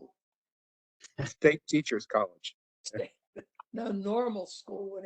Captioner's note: laugh